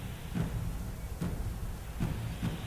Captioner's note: strange static noise